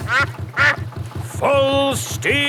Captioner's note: quacks